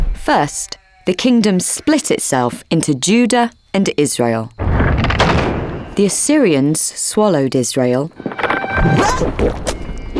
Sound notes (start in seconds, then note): 4.7 rock crumbling; 8.1 building crumbling; 8.4 King Solomon yelping; 8.6 wooden stakes digging; 9.9 burping